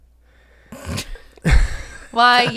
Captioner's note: snorts